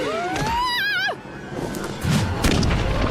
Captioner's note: Mrs. Botsford yells